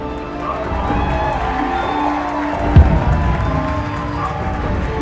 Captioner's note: crowd cheering